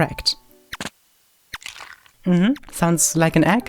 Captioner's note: egg cracking